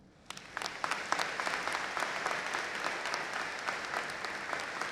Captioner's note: audience applauding